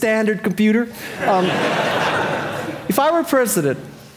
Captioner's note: audience laughing